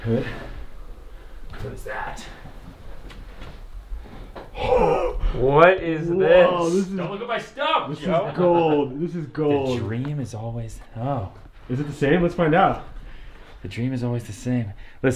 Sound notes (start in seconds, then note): 5.6 laughter